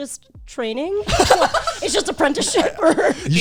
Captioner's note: guys laughing